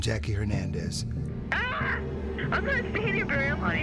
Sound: screams

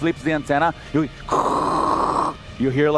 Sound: static noise

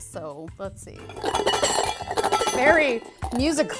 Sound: garlic clanging

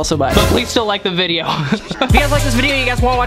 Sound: laughs

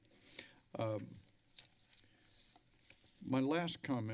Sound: paper rustling

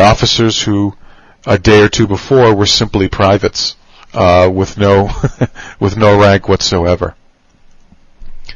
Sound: laugh

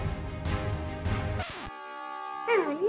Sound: record screeching; alarm ringing

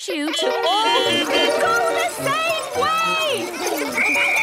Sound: beeping; whistle blowing

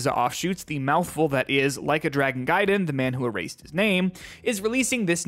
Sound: deep breath

